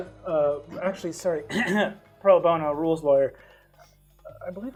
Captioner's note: clears throat